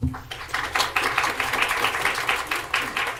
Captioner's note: applauding